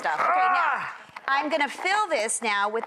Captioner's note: grunting